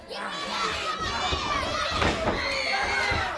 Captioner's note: crowd chatter